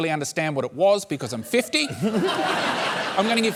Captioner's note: laughter